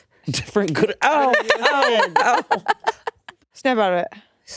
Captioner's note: laughing